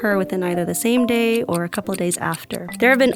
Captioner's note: clock ticking